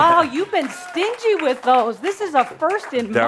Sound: some applause

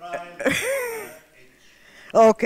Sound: laughs; speaks off microphone

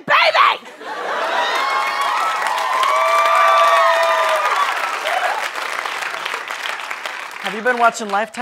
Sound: audience cheering

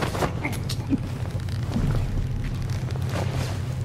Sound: enemy choking

